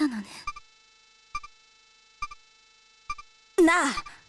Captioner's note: silence